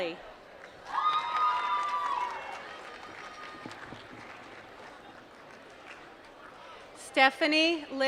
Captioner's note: applause